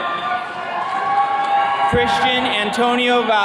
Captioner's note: attendees cheering